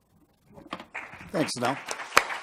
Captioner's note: applause